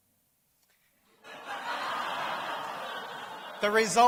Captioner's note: laughter